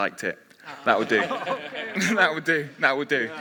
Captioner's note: others laughing